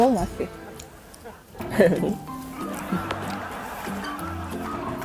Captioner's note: hee hee